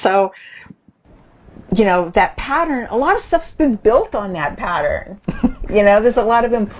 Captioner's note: laughs